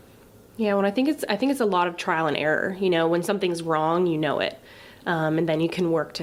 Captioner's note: none